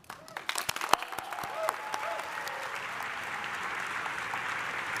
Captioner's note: audience applauding